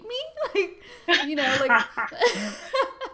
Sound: laughs

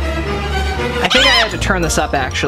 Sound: dramatic music; chicken squawking

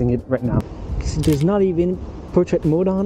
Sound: camera clicking

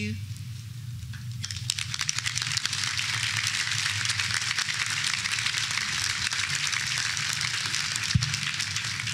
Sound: applause

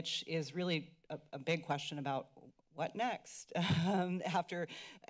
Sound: laughter

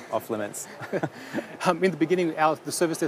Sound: laughter

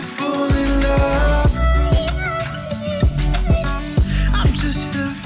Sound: sharp female voice

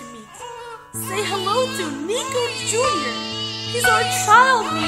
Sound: baby crying

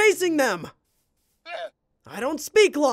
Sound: llama grunting

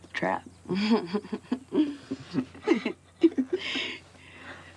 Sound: both chuckles

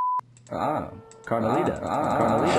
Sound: ahh!

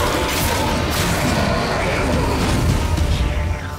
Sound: wraith howls

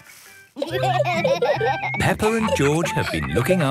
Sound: laughter

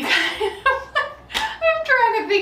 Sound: laughing

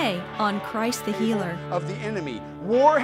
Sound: voiceover

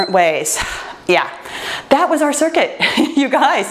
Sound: laughs

